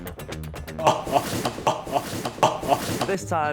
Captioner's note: laughs